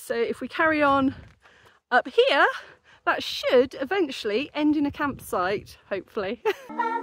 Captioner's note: laughing